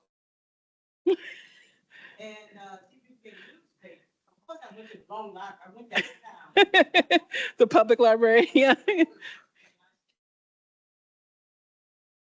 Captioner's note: laughter